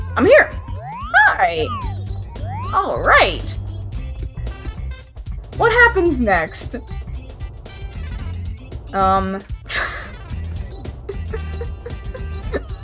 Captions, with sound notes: I'm here! Hi! Alright! What happens next? Umm... [wheezes] [more bemused laughter]